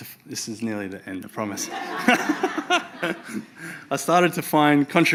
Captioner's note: laughs